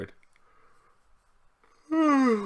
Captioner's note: yawns